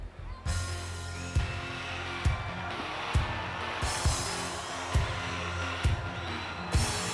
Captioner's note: crowd cheers; hard rock music